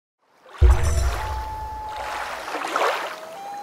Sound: water rushing, loon calling

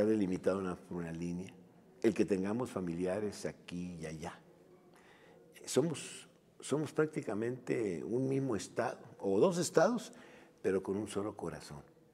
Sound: speaking in a foreign lang

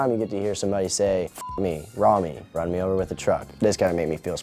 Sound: beep

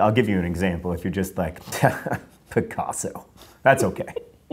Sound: chuckle

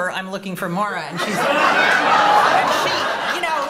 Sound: laughter

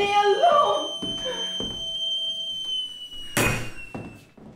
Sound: kettle whistling

